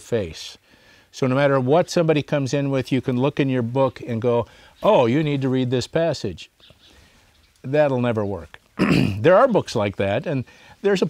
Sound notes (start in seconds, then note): 8.8 clears throat